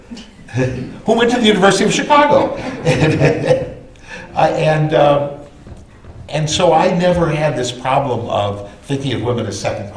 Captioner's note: laughter